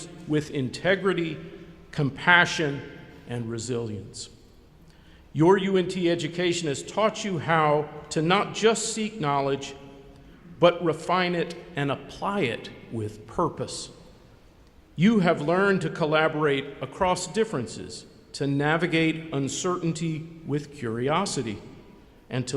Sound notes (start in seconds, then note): none